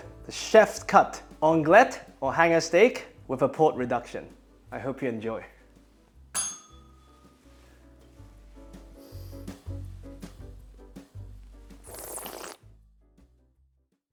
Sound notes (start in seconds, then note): 6.3 bell rings; 11.7 slurps